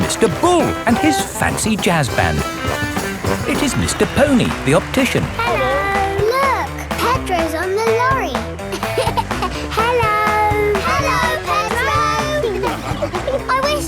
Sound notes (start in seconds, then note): 8.5 laughing